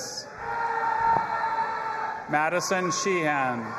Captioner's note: audience applauding and cheering